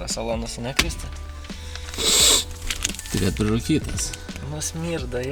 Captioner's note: sniffs